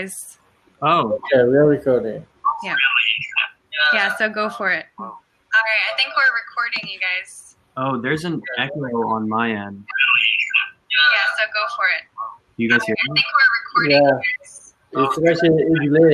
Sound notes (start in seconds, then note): 5.0 echo; 12.6 technical glitch